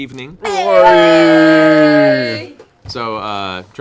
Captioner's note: cheering